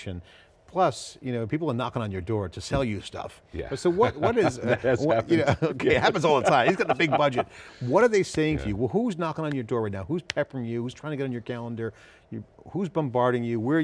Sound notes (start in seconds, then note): 3.8 laughing